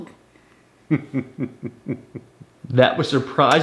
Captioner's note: dad chuckling